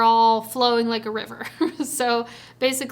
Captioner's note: chuckles